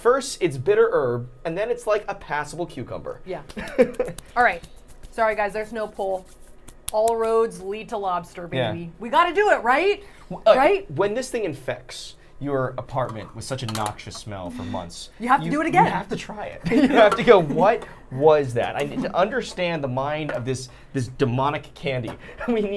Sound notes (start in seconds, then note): 3.5 laughing